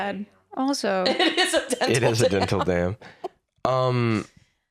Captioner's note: laughing